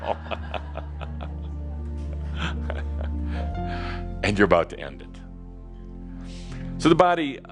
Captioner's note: laughter and chuckles